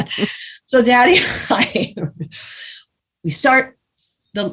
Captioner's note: guffaw; giggles